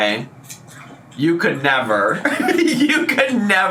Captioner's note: laughs